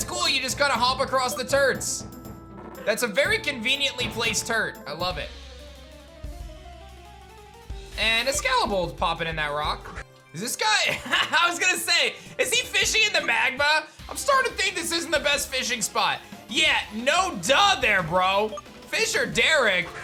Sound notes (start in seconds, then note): 10.9 laughs